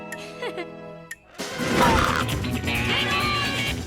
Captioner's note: Lizbeth laughing; adventurous music; logo whooshing